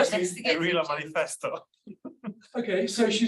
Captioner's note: laughs